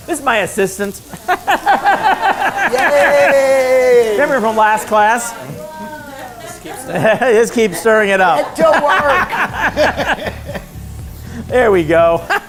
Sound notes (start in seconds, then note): 1.1 laughter